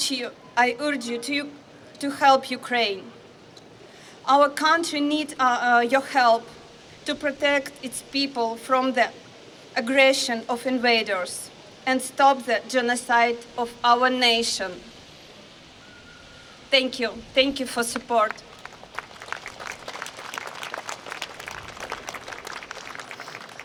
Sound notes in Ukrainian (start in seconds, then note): 18.2 Оплески